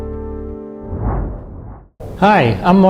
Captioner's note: whoosh of air